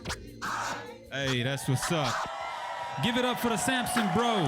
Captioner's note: audience cheers